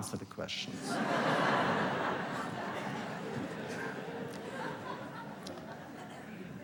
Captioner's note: laughter